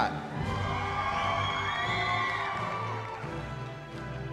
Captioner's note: cheering